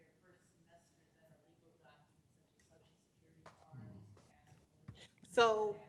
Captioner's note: murmurs